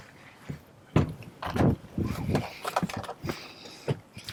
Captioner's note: door opening